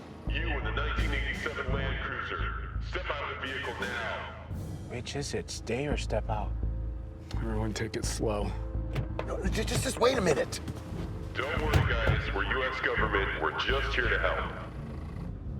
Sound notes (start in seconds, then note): 11.4 loudspeaker